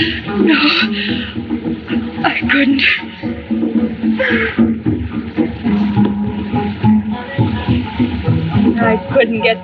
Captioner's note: sobs